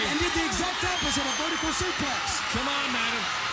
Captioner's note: crowd cheering